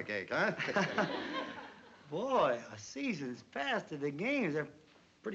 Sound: laughs

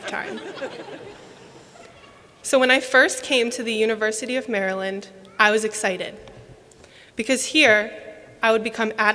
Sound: laughter

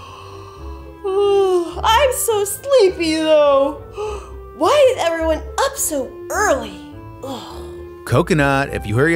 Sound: yawn

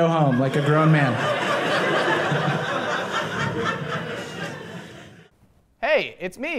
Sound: audience laughing

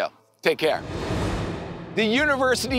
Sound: air whooshing

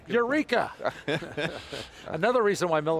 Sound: all laughing

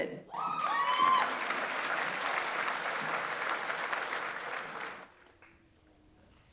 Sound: audience members cheer; audience applauds

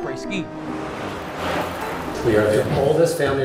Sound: traffic hums

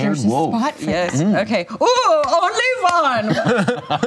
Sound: imitates German accent

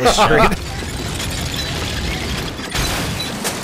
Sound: wheelchair squeaking

